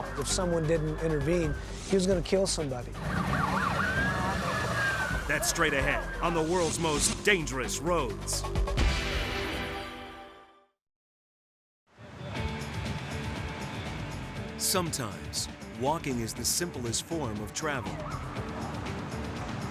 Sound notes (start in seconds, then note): 2.9 sirens blaring